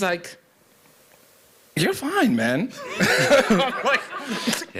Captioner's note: laughter